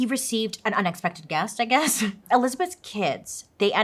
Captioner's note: laughs